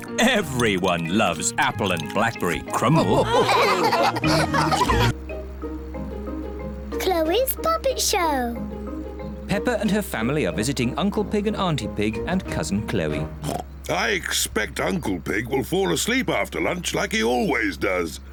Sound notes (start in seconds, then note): 2.8 all laughing; 13.4 oinks